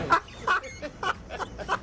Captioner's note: laughs